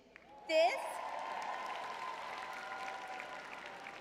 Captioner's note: audience applauding; audience cheering